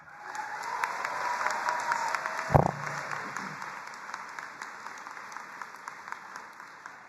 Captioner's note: crowd cheering and applauding